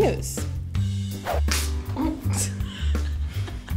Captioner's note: giggling